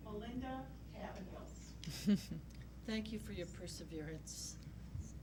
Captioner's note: chuckles